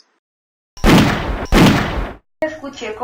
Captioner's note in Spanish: Disparos de pistola